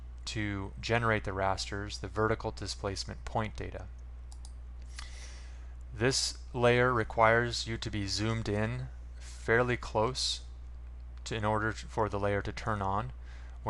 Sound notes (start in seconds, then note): 4.3 mouse click